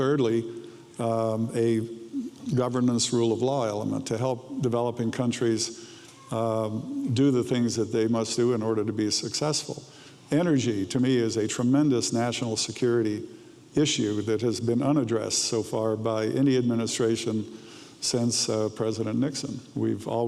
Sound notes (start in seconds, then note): none